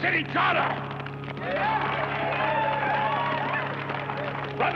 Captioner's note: cheers and applause